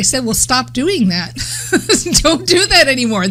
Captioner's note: laughing